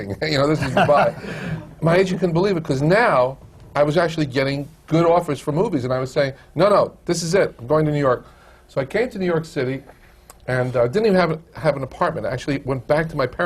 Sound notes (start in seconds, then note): 0.5 laughter; 0.5 laughs